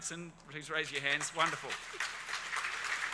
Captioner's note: crowd applauds